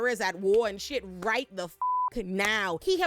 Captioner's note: beep